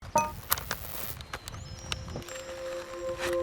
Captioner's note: electronic beep, buzzing; ethereal music